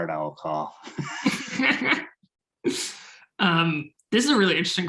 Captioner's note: laughing